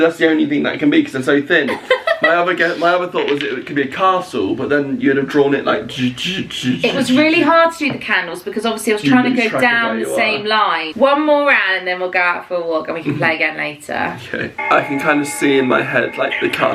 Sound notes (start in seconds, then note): 5.7 vocalising